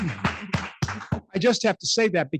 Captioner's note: clapping